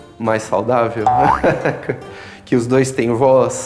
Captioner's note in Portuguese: efeito divertido